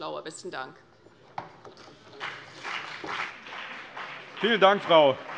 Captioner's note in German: Beifall CDU und BÜNDNIS 90/DIE GRÜNEN